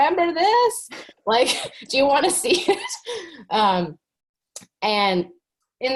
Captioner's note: chuckles